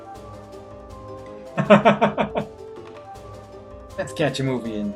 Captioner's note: laughs